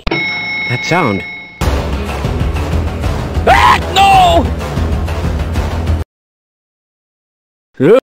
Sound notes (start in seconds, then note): 0.0 elevator ding; 3.4 visitor screams